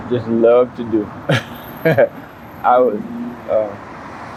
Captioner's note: man giggles